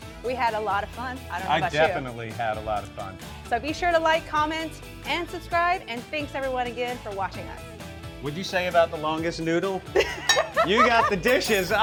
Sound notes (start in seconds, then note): 9.6 laughs